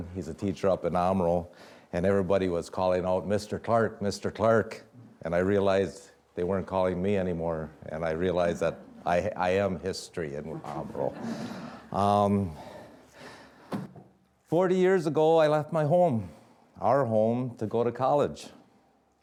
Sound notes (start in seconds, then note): 10.4 audience laughing